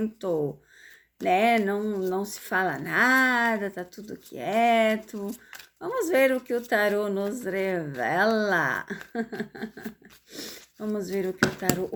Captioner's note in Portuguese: risadas